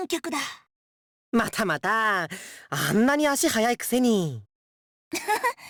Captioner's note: laugh